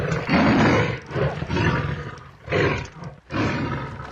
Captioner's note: rugido de león